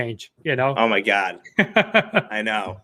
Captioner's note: laughing